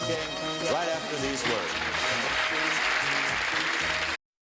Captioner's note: audience clapping